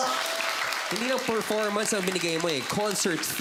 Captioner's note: applause